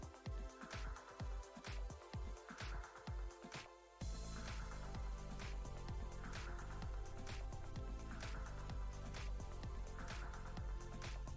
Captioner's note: applause